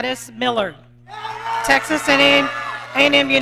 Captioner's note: audience cheering